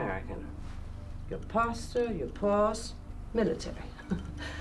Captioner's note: chuckles